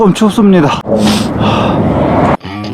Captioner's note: sniff